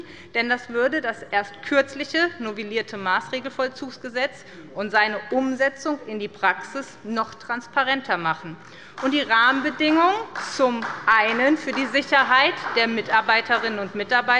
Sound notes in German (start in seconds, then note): 8.9 Beifall bei der SPD